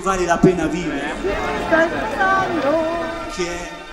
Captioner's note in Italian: chiacchierio